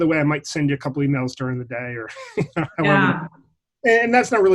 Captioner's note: laughs